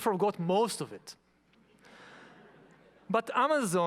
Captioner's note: audience laughing